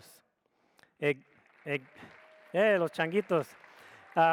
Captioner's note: audience applauds